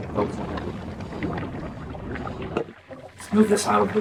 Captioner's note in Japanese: 大きな泡立つ音